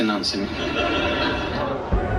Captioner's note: crowd laughing